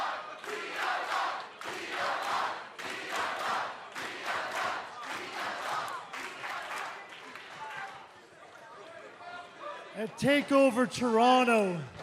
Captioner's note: fans chanting